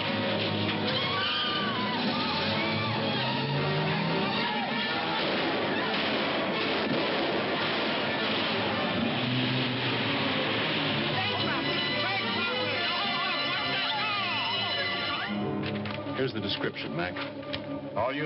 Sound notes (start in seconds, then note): 3.7 people clamoring; 11.1 alarm sounding